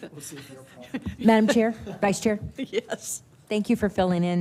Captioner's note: laughter